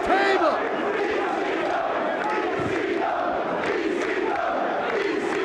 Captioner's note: spectators chanting "ECW!"